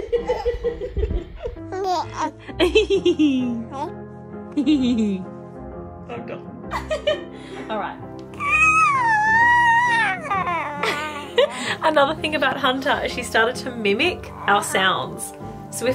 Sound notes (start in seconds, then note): 0.0 giggles; 2.9 giggles; 6.7 laughs; 8.9 groans; 9.9 laughs